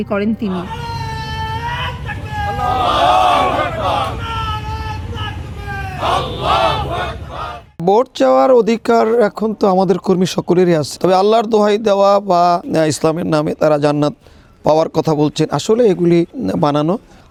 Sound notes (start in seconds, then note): 0.4 Nara-e-Takbir slogans